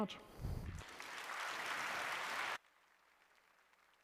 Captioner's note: applause